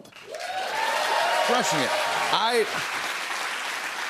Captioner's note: cheers and applause